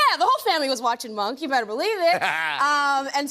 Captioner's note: laughs